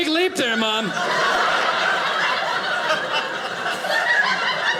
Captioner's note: audience laughing